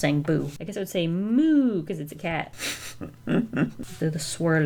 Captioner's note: chuckles